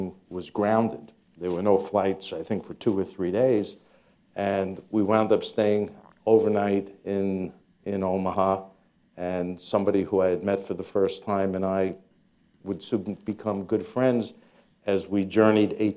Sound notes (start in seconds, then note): none